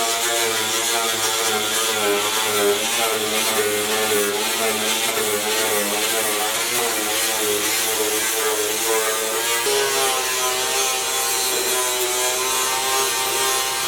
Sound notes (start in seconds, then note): 3.0 grinding Polishing Noises